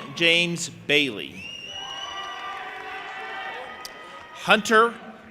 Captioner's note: audience applauding and cheering